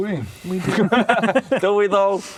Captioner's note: uncertain laughter